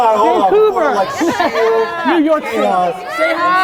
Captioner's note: chuckles